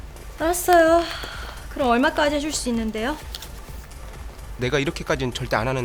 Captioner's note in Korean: 한숨